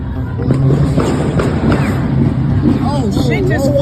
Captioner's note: gun fires